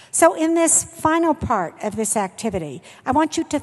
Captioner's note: none